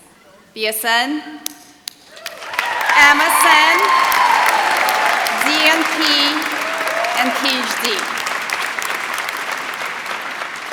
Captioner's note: applause